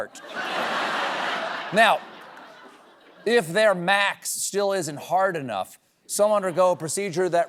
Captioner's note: laughter